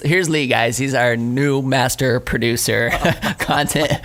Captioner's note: laughing